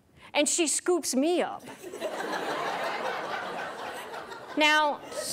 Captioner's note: audience laughs